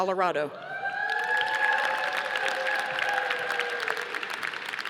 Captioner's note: audience applauding